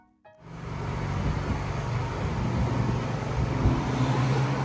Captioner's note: car engines whirring